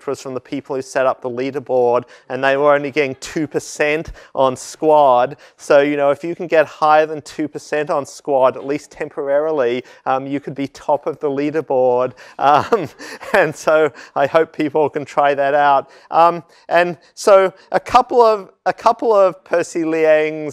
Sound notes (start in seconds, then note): 12.5 laugh